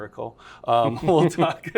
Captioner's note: laughter